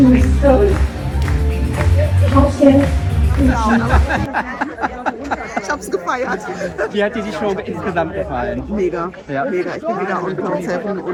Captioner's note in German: gelächter